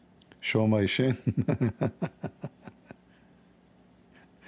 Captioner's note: Ketawa